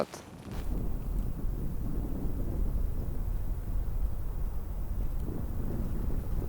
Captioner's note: wind blowing